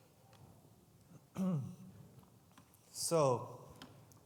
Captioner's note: clears throat